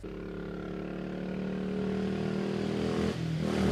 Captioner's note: engine rumbling